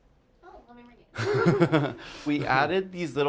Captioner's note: laughs